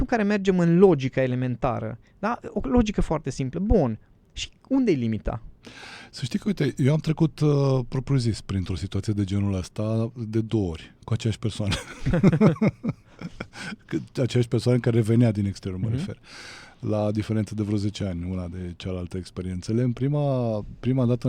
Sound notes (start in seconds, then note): 11.6 laughter